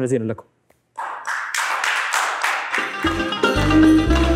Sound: clapping

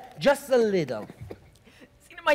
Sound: professor loudly coughs

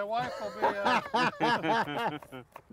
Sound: group laughs

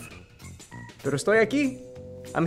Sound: speaking spanish

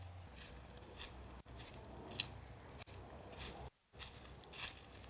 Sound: sounds of foot steps

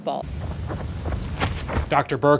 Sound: heavy footsteps on grass

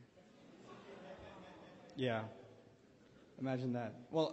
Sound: laugh

